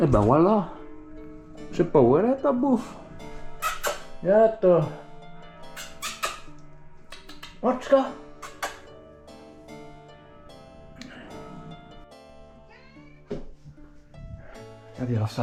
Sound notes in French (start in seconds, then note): 9.4 chat en hongrois